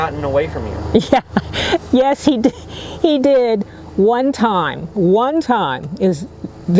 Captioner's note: laughing